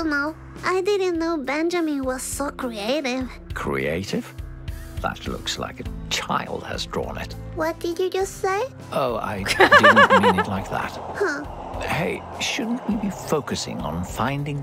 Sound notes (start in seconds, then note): 9.4 chuckles